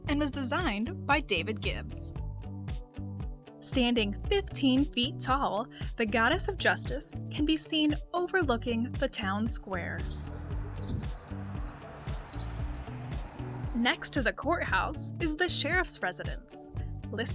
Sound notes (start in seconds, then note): 10.0 birds chirping; 10.4 upbeat music